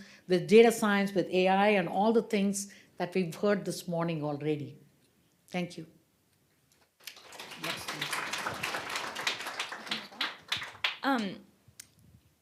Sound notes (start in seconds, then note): 7.0 applause